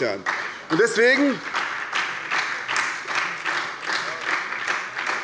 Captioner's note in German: Beifall bei der SPD